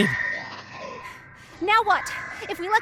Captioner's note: screeching